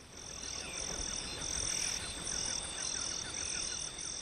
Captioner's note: crickets